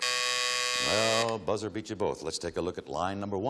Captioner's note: timer buzzes